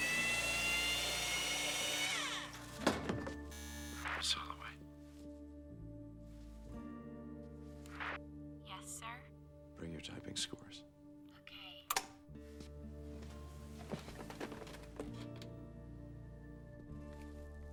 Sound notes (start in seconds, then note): 3.5 intercom buzzes; 11.9 clicks off